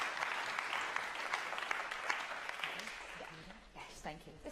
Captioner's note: applause